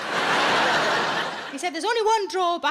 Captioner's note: audience laughs